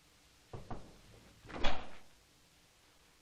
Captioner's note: knocking